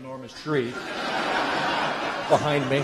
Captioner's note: laughter